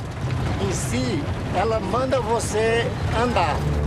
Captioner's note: Portuguese spoken audio